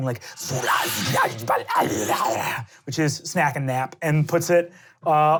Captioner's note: murmuring in tongues